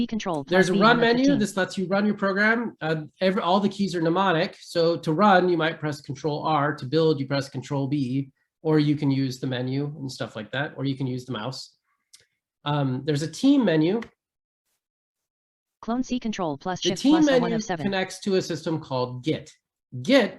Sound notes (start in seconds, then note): 17.1 screen reader audio